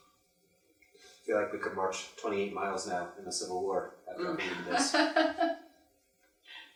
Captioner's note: laughs